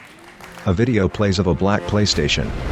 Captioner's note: applause